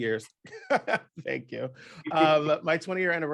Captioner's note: laughs